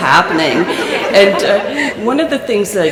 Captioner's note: laughter